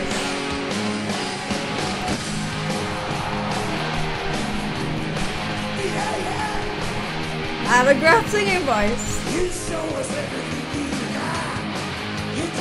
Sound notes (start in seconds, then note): 2.9 audience cheering